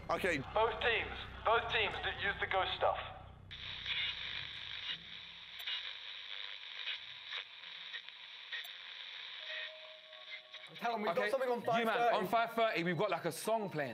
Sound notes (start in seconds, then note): 4.6 signal crackles